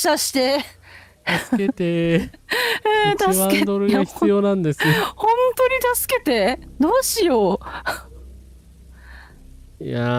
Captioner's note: laughter